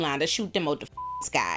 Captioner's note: beep